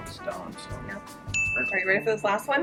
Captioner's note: bell dings